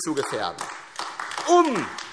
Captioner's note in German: Beifall AfD